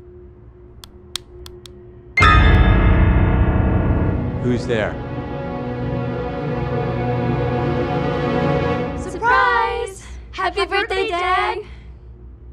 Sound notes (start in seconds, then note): 1.4 light switch; 2.2 suspenseful music